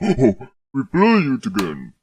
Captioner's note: Vader laughs